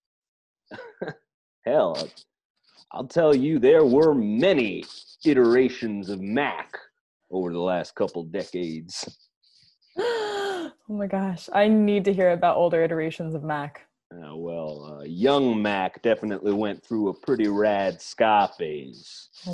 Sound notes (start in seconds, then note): 10.4 gasp